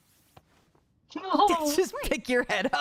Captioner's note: laughing